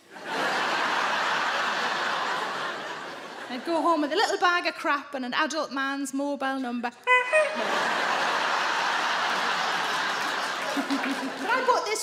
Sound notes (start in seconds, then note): 0.0 audience laughing; 7.0 Sarah imitates horn honking; 7.0 audience laughing